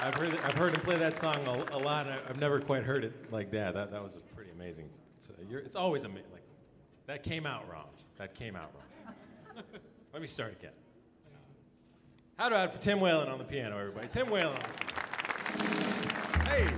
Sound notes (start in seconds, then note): 8.9 audience chuckling; 14.0 audience applauding; 15.2 drum roll